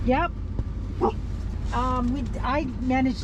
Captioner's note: woof